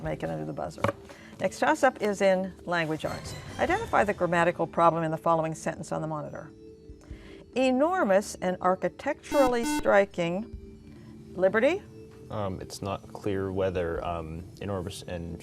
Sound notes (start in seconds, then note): 9.2 beeping